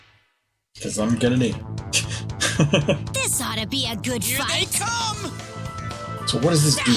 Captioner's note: laughs